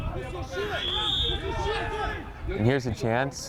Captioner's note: whistle